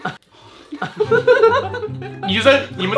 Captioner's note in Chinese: 陷入默契群笑